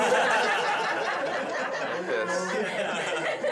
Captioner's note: laughing